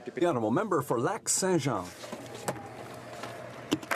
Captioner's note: speaking French